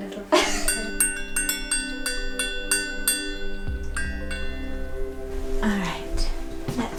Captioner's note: laughing; bell ringing